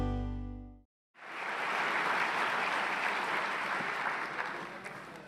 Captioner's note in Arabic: تصفيق الجمهور